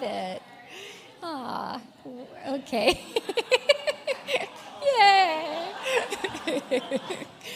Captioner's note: laughs